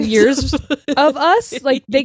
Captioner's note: laughing